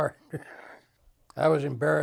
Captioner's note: chuckles